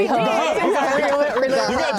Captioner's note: laughing